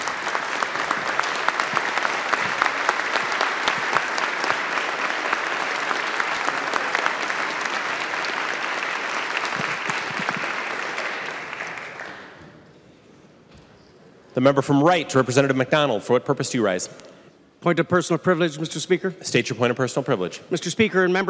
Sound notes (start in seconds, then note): 9.0 applause